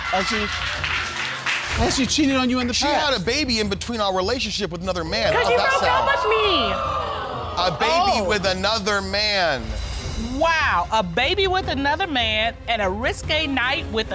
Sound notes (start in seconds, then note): 5.9 audience gasps